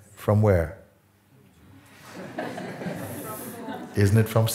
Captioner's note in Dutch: gelach